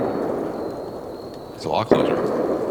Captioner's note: gun banging